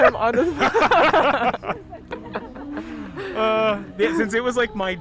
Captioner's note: both laughing